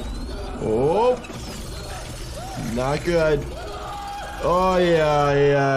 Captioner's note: character screaming